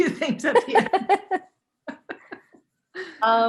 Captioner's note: laughter